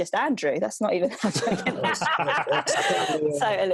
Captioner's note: group laughing